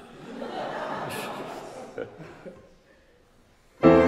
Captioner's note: audience laughing; passionate cello and piano music